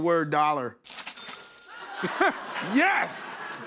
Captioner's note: cash register dings